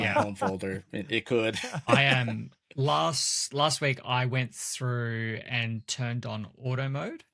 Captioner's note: laughs